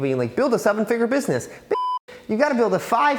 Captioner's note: beep